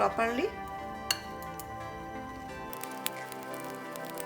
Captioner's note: spoon mixing